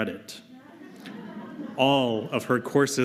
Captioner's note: laughter